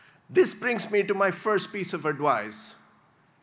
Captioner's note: none